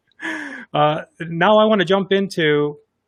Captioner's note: laughs